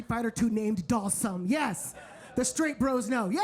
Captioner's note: audience laughing